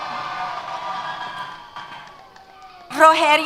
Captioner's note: cheers